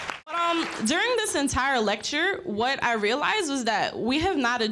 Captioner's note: applause